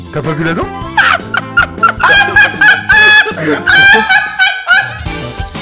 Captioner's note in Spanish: ríete